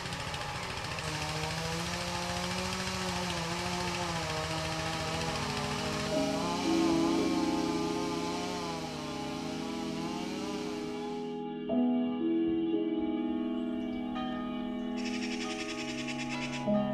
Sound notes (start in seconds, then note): 0.6 indistinct chat; 13.2 church bell tolls/magpie warning call